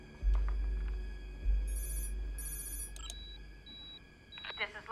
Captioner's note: electronic Beeping